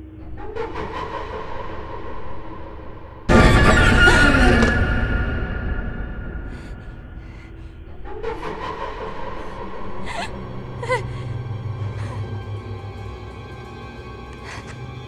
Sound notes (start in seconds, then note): 0.2 ominous music; 3.3 suspenseful music; 7.9 ominous music; 9.3 scared breathing; 9.9 suspenseful music